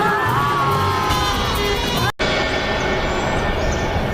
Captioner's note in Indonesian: berteriak